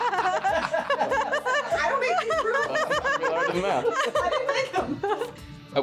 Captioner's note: laughing